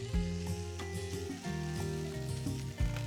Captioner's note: sizzling